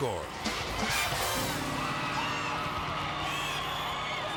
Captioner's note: crowd cheering